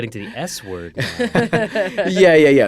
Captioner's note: all laughing